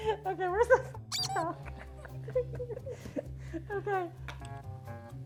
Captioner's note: squeak